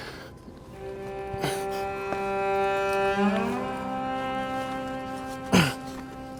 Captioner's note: grunts; labored breathing